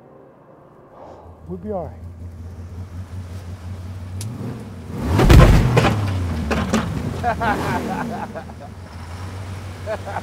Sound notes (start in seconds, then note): 5.1 object thuds; 7.1 laughing